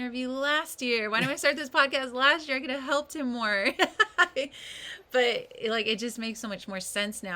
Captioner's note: laughs